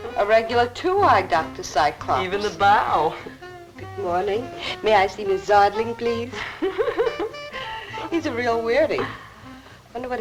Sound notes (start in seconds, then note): 6.3 secretary laughs